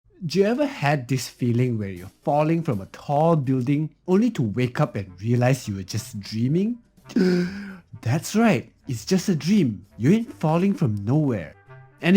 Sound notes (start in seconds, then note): 7.1 gasps